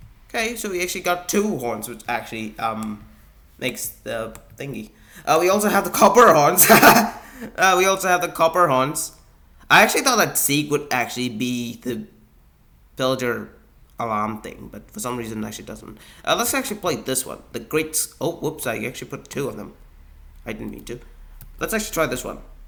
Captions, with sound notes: okay so we actually got two horns which actually um makes the thingy uh we also have the copper horns. (laughs) Uh, we also have the copper horns I actually thought that seek would actually be the build your alarm thing but for some reason that she doesn't uh let's actually play this one the great oh whoops I actually put two of them I didn't mean to Let's actually try this one